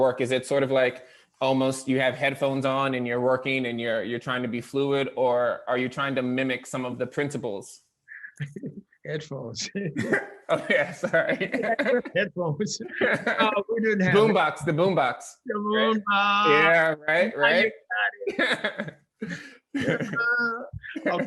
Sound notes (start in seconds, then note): 8.1 laughing; 12.8 both laughing; 18.2 both laughing